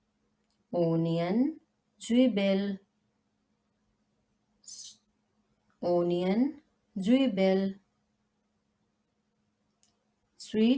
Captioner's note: in German: Zwiebel